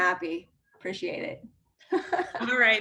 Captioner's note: laughs